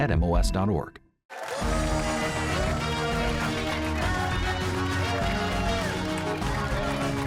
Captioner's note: cheers and applause